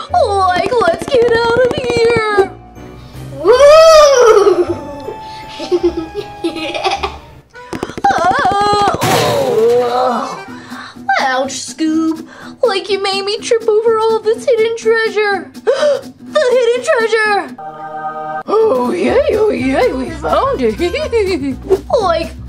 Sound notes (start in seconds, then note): 4.2 laughs; 9.6 screams; 15.6 gasps; 21.5 laughs